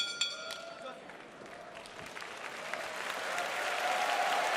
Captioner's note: bell ringing; cheers and applause